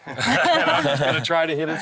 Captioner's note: lalaugughthterer